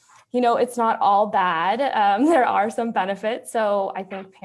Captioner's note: chuckles